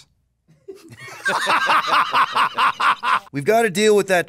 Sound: laughs

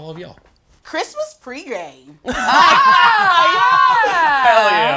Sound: all laughing

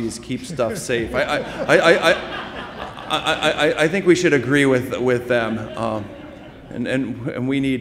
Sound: laughter

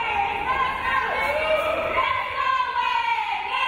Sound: crowd

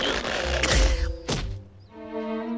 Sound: impact

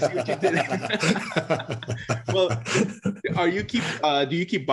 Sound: laughing

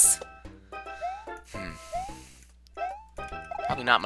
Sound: breathing

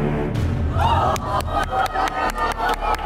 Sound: women groaning; clapping

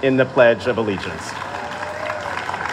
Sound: applause

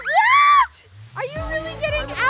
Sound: screams

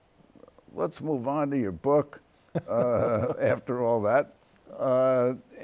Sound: both chuckle

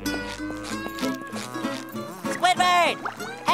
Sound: buzzing

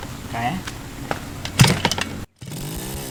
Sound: sound of feet

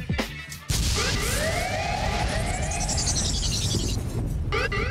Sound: sirens wailing

